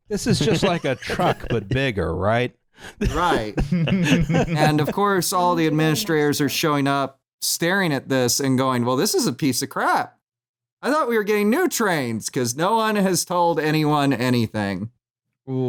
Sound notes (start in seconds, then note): 2.9 laughter